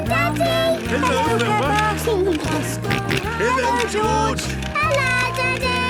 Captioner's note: George giggling and snorting